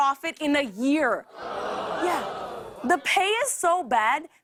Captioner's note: audience ohs